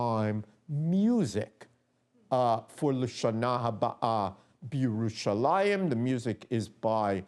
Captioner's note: non-english speech